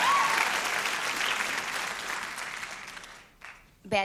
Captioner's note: applause